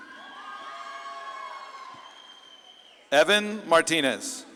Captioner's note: audience claps and cheers